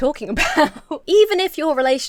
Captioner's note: laughs